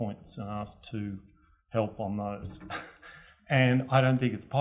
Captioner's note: laugh